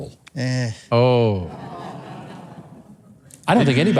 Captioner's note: laughs